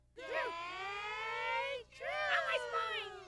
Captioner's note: kids shouting" ! ! Yay, !"